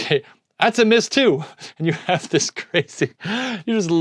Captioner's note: laughing